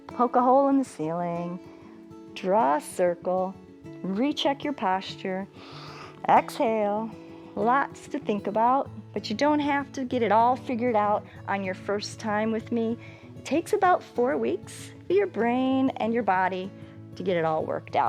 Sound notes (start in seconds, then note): 5.6 inhales